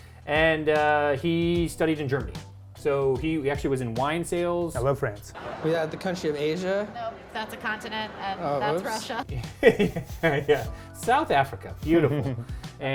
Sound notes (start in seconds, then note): 9.3 chuckles